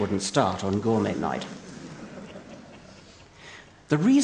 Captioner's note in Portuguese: Risos